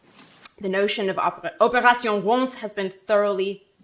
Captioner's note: speaking French